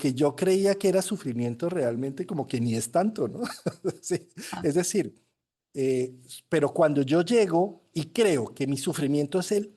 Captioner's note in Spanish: risas